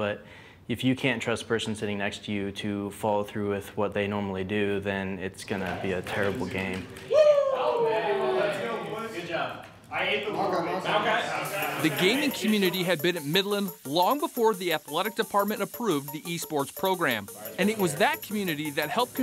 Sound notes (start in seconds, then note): 7.3 chattering